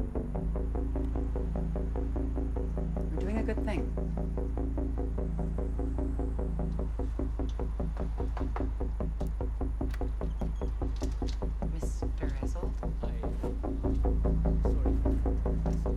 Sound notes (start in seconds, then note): 10.9 lock clicks